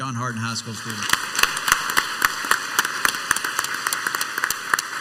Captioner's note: crowd applauds